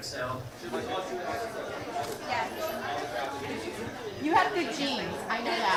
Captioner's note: all chattering